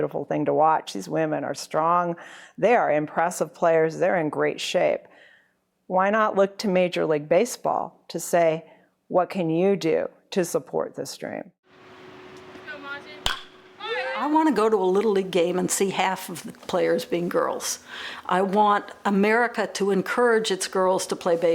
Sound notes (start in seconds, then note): 12.9 bat pings